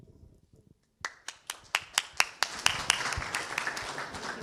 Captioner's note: clapping